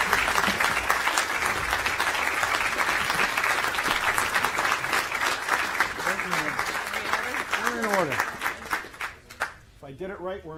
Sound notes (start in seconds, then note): 2.4 applause